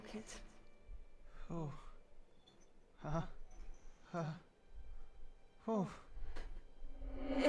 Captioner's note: nervous noises